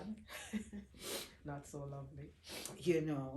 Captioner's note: chuckling